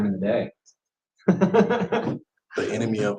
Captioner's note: laughs